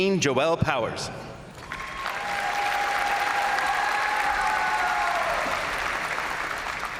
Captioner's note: crowd applauding; crowd cheering